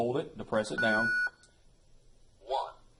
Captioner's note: beep